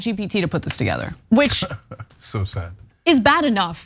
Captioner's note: laugh